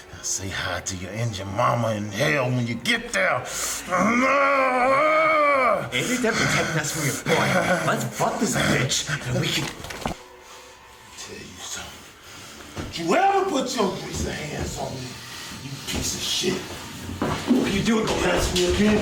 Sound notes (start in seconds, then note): 4.5 choking; 9.6 gun pulled from holster